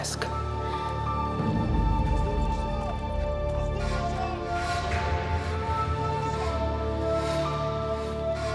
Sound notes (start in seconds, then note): 1.3 men shouting